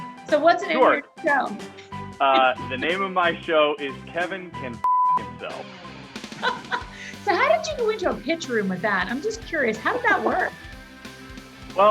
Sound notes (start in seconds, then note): 4.8 beep; 6.8 laughs